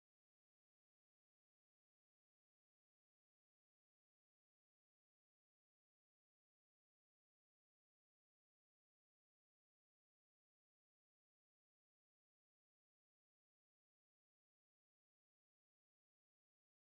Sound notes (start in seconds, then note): none